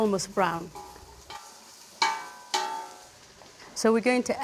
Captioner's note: sizzling